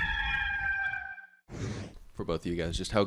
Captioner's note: rooster crowing; logo whooshing